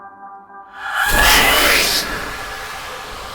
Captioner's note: hissing